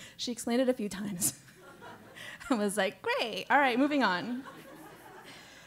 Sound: laugh

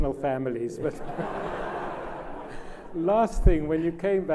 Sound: laughs

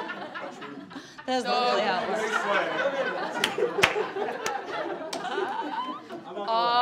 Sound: laughing and clapping

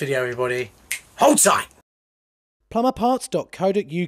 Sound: snaps

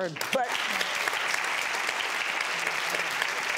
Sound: applauding

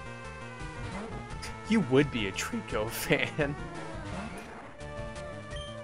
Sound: chuckles

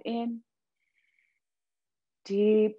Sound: inhaling deeply

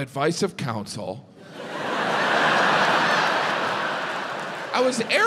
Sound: audience laughs

